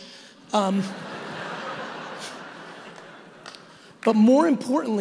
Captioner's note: audience laughing